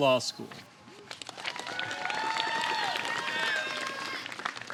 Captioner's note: applause